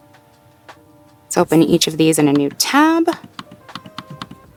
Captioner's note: mouse clicks